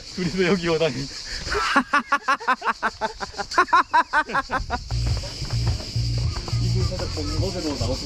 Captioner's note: laughing